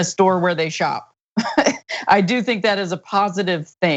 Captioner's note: laugh